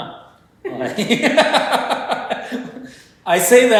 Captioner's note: laughter